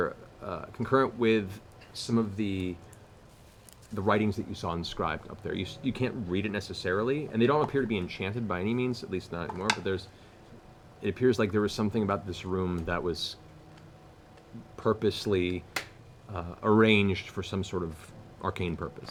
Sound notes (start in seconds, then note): none